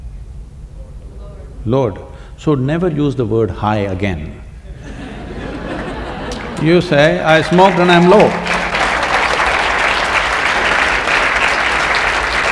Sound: laughter & Applauds

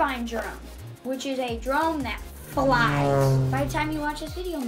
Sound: engine revving

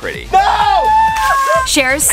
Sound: group screams

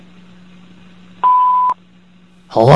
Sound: beep

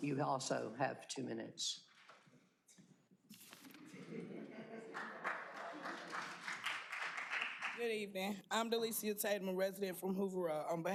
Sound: applause

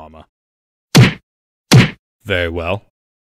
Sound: punching sounds

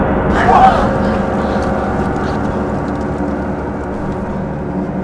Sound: students gasping

